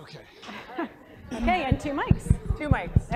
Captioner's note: laugh